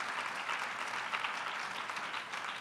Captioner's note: applause